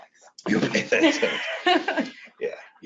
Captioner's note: laughs